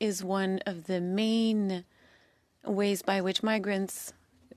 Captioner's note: speaking French